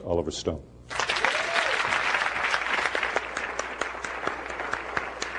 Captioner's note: applause